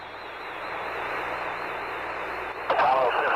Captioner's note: radio transmission